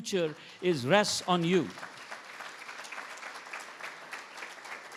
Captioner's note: everybody applauds